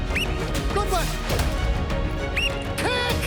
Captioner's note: whistle trills; whistle trills